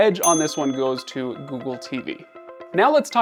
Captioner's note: bell rings